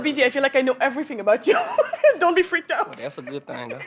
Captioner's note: laughs